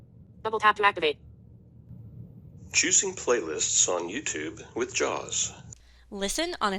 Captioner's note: recording plays narrated audio "choosing playlists on YouTube with JAWS."